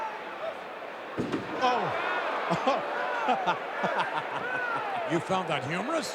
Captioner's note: laughs